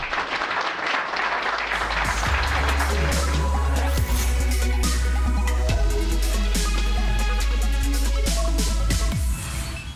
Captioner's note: applause